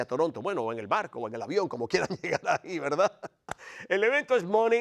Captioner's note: laugh